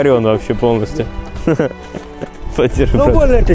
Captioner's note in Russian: смех